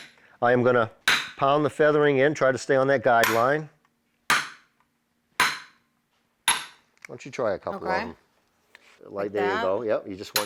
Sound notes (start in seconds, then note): 3.7 hammering